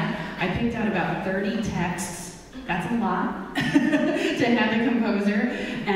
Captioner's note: laughs